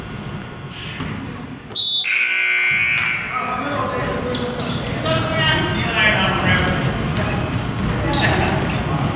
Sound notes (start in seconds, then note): 1.7 whistle blows; 1.9 buzzer goes off